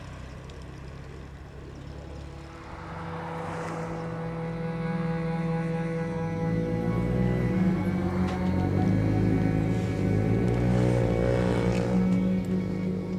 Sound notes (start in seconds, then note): 2.3 somber music; 6.6 motorbikes whining